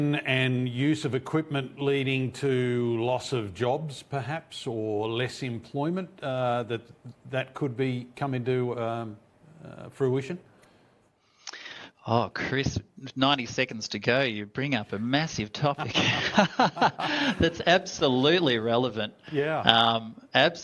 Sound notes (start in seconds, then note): 15.8 laugh